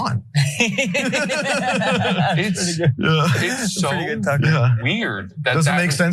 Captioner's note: laugh